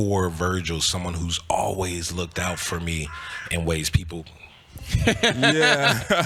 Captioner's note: bird sounds